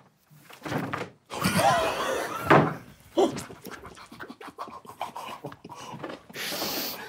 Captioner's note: cards hit table; group quietly laughing; group gasps